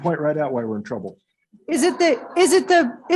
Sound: angry chatter

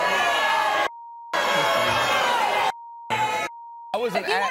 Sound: audience boos

